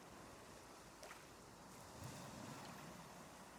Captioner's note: waves rolling